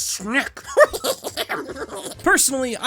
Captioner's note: cackles